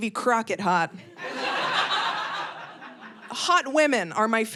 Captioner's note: audience laughing